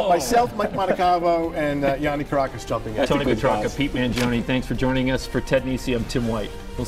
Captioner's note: laughter